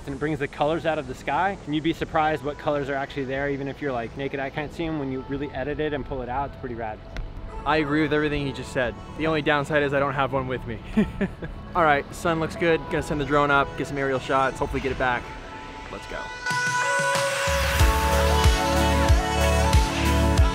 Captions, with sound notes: and it brings the colors out of the sky, and you'd be surprised what colors are actually there even if you're like naked eye can't see them, when you really edit it and pull it out it's pretty rad. - I agree with everything he just said. The only downside is I don't have one with me. (laughing) Alright, sun looks good, gonna send the drone up, get some aerial shots hopefully get it back. Let's go. (serene music)